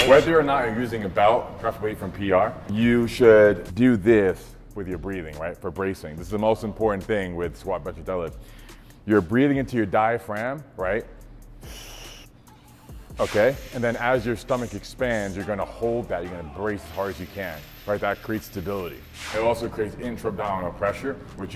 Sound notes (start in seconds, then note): 11.6 inhaling sharply